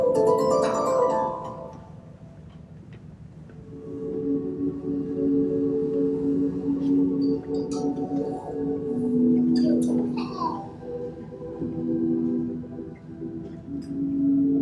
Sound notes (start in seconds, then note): 0.0 mysterious music; 9.6 baby laughs